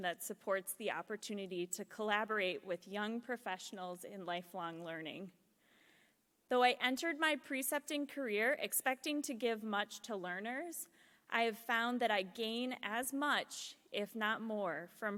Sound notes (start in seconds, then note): none